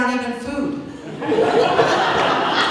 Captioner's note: laughter